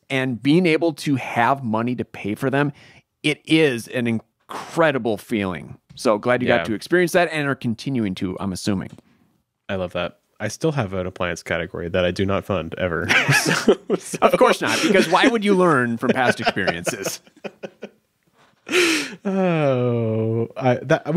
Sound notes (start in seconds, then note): 13.0 laughing